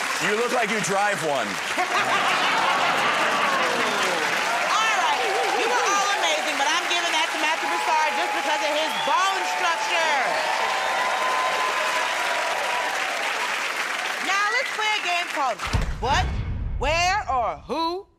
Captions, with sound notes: -You look like you drive one. [ Laughter ] -All right, you were all amazing, but I'm giving that to Matthew Broussard just because of his bone structure. [ Cheers and applause ] Now let's play a game called...